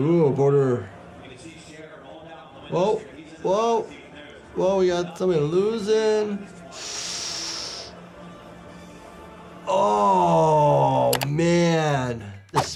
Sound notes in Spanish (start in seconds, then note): 0.0 locutor habla en voz baja; 1.7 locutor de fondo hablando; 6.7 Doctor chupando aire a través de los dientes; 8.0 música teatral